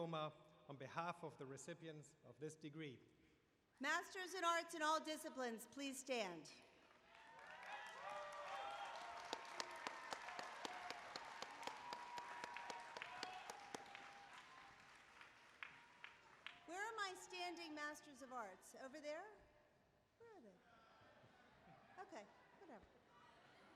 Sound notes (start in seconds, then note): 6.8 applause